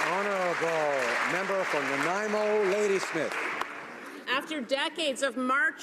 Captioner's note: applause